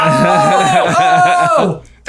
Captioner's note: laughs